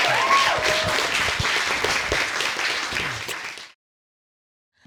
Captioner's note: audience cheering and applauding